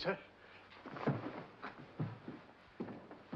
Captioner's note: soft thump